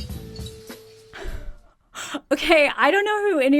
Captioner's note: laughs